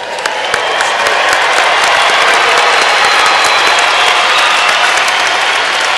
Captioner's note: cheering and applause